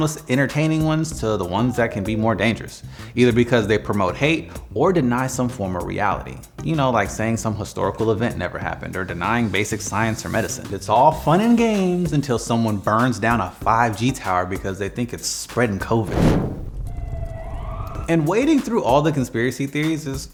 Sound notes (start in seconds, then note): 16.0 fire roaring; 16.8 sirens wailing